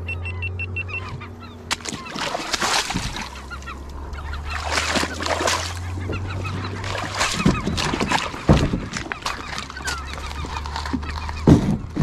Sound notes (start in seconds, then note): 0.0 beeping; 2.1 water splashing; 7.6 kayak dragging on rocks